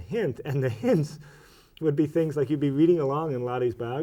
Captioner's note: chuckles